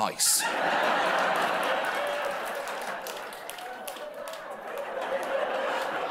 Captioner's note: laughter; applause